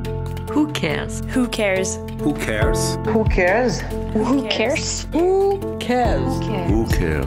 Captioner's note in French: voix féminines et masculines